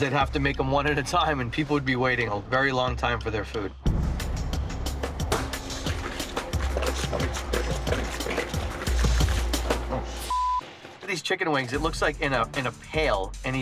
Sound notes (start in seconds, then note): 3.8 intense drum beat; 5.2 wings plopping; 10.2 beeping